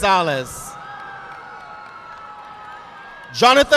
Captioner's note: audience clapping